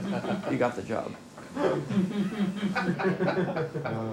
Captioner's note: laughing; all Laughing